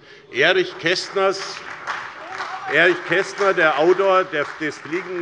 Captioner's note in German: Beifall bei der SPD